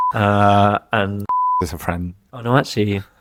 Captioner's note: beep